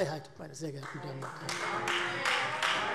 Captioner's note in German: Beifall Freie Demokraten - Zurufe